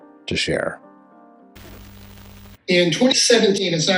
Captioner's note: static